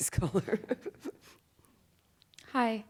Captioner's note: laughs